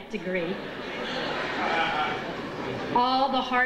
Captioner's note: audience chuckles